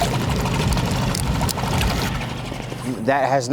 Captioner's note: water splashing